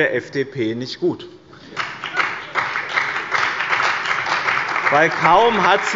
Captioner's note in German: Beifall bei dem BÜNDNIS 90/DIE GRÜNEN und der CDU